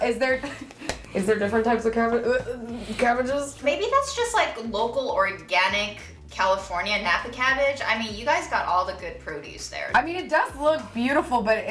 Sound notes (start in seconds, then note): 2.7 gagging